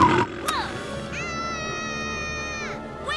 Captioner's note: Max screams